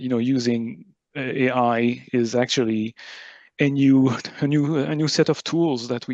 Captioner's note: laughs; laughs